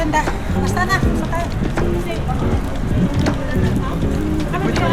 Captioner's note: laughs